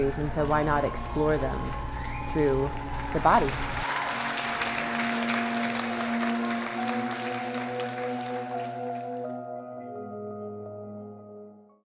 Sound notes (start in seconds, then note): 2.1 audience applauding; 2.1 audience cheering